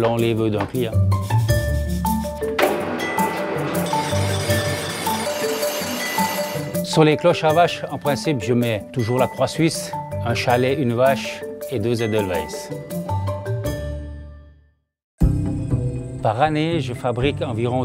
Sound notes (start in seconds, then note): 2.6 machine whirring; 4.2 metal scraping; 7.0 speaking in foreign language